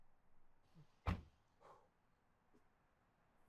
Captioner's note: door closes